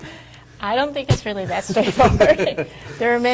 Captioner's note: laughs; everyone laughs